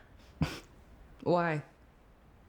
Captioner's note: scoffs